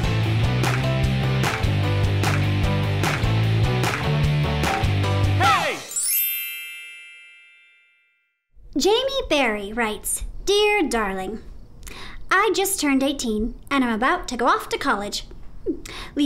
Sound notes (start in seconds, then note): 0.0 rhythmic clapping; 5.4 tink bells